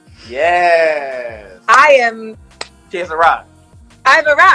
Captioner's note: claps